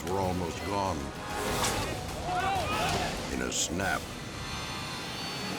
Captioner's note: cable cracks